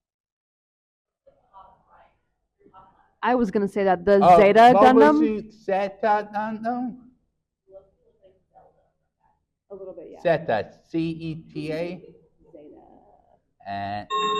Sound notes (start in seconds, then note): 7.1 attendees faintly speaking; 14.0 chiming sound effect